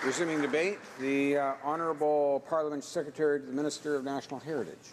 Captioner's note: applause